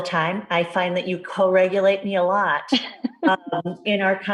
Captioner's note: laughs